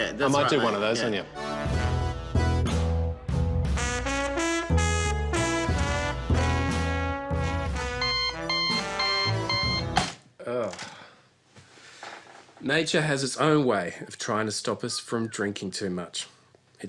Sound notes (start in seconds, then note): 8.0 alarm clock beeps